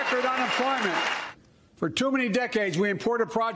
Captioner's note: applause